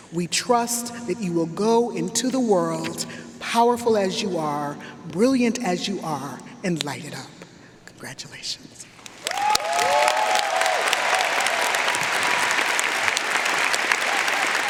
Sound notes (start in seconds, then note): 9.0 audience applauding; 9.2 audience cheering